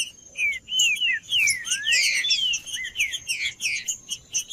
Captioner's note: trinca ferro cantando